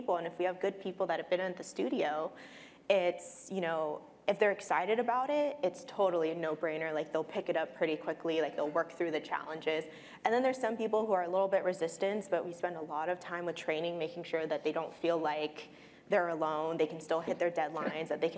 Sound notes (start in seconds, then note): none